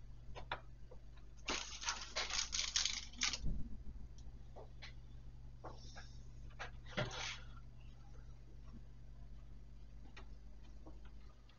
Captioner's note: noises from the workshop